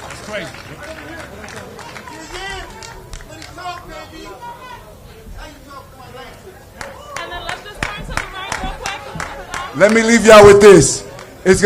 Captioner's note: applause